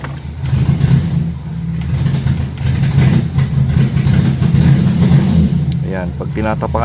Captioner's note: engine misfiring